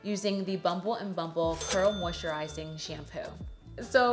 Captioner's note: bell dinging